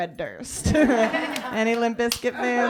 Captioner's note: laughter